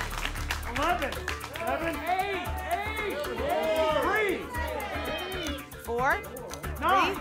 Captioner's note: audience shouting numbers